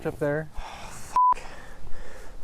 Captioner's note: sighs